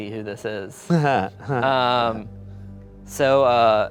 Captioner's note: laughing